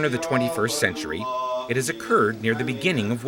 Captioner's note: man chanting in arabic